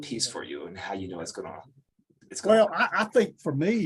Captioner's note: mouse clicking